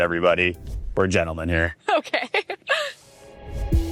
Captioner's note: chuckles; light music